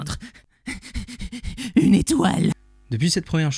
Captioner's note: heavy breathing